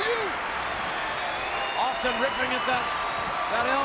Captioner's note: applause